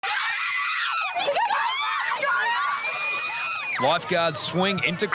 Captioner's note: crowd screaming